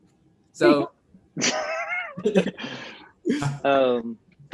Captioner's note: laughs